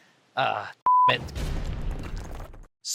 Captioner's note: slam!!!